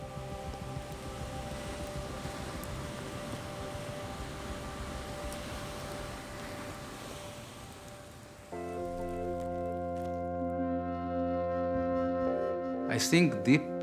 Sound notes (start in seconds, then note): 1.9 rolling waves; 8.6 dramatic music